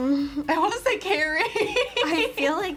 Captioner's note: laughs